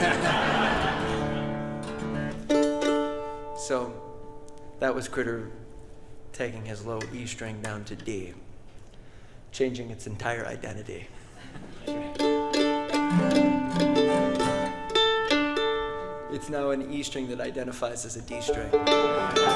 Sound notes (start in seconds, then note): 0.0 audience laughing; 0.0 guitar playing; 11.2 audience chuckles; 12.2 mandolin strumming; 13.4 guitar strumming